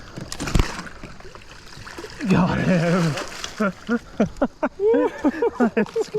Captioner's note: laughter